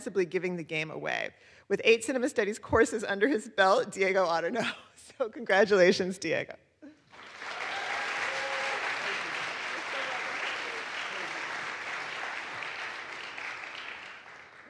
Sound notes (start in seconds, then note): 7.0 audience applauds; 7.2 audience cheers